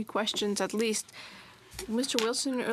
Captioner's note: speaking French